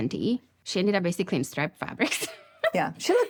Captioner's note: laughs